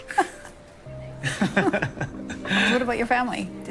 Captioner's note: laughing